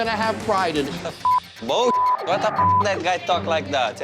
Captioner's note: beep